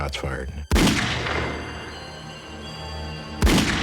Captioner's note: gunshots